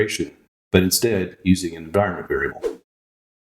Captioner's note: woosh